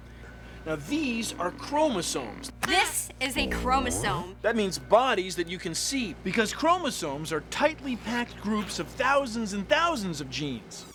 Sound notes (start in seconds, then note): none